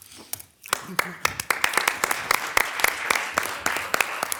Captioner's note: all applauding